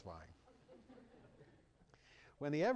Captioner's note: laughter